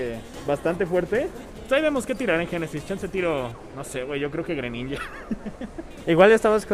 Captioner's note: chuckles in hydro pump